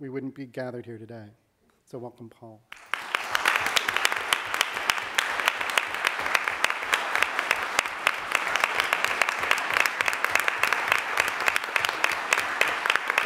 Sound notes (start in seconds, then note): 3.7 audience clapping